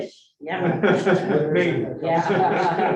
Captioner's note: group laughing